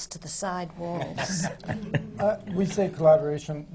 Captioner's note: laughter from the panel